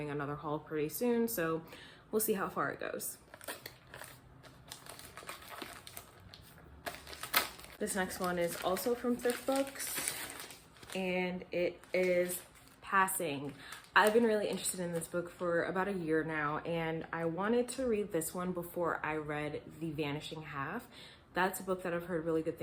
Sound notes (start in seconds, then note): 3.2 opening package